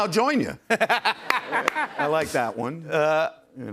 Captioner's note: laughter